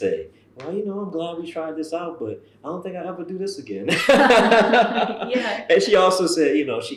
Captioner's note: laughter